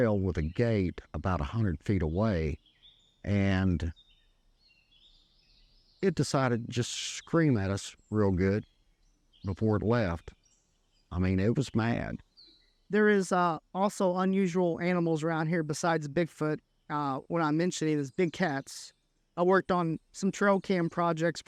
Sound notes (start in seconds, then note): 3.8 background wildlife sounds